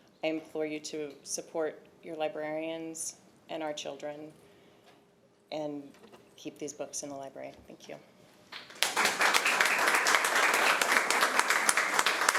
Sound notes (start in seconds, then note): 8.5 applause